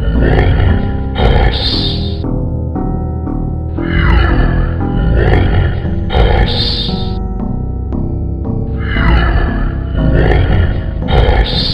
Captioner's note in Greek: Καγχάζει